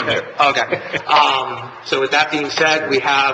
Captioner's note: laughing